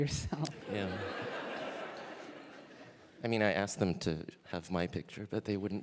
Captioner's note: laughter